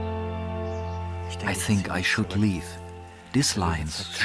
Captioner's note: in German